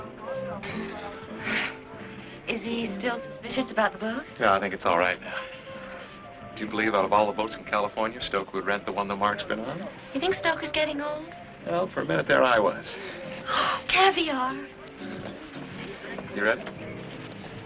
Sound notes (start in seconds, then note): none